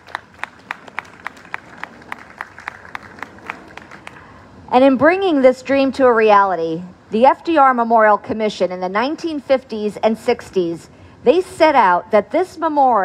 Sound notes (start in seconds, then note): 1.8 applause